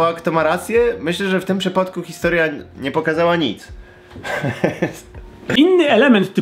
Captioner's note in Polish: śmiech